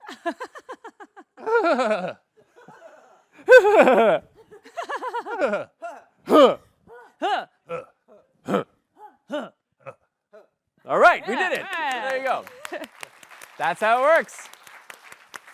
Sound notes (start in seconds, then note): 0.1 giggles; 0.2 laughs; 11.2 applause